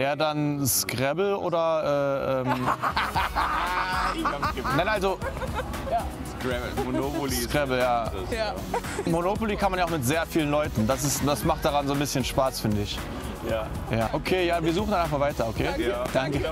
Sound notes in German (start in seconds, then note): 2.3 Beide lachen